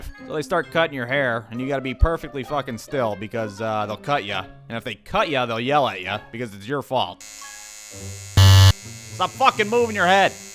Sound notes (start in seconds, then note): 7.2 brrrzzzzzzzzzzttt; 7.2 bzzzzzzzzz